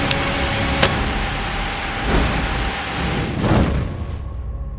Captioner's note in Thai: พายุฝน; ไฟลุกโชน